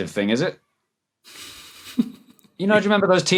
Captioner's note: snickers